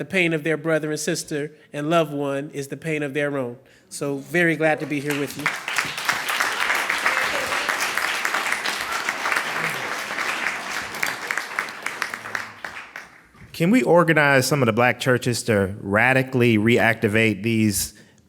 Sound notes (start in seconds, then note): 5.6 clapping